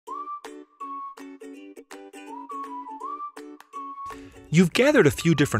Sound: whistling

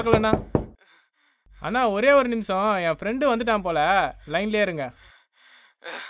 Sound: door Knocking

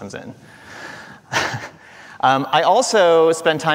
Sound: chuckling

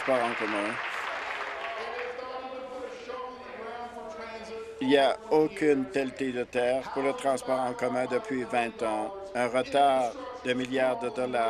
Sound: applause

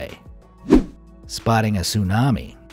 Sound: air whooshing

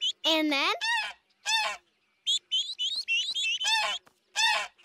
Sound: honks; honk

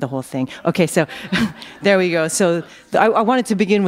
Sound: chuckle

